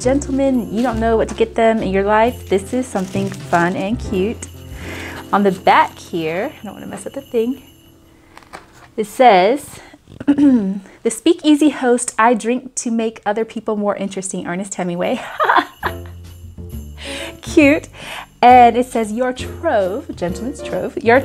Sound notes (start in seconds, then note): 15.6 laughs